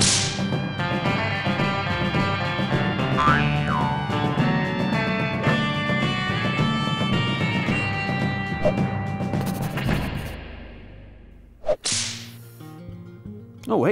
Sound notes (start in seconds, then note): 0.0 intense music; 0.0 whip snaps; 3.2 eyes boing; 5.5 cape whooshes; 8.6 air whooshes; 9.3 pencil scratches; 11.6 air whooshes; 11.6 whip snaps